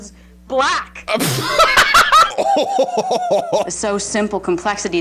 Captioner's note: laughing